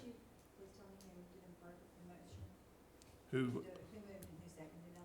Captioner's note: voice is muffled